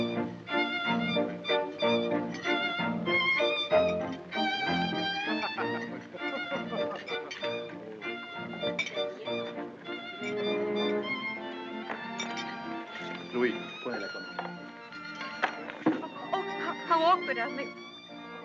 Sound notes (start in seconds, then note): 6.0 man laughing; 6.9 cutlery clinking